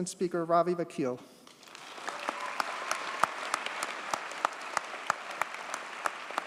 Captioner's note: audience cheers and applauds